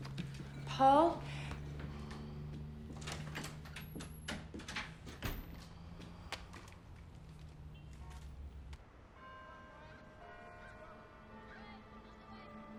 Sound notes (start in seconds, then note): 3.4 door latch clicks; 9.1 church bell dinging